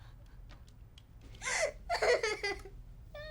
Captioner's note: crying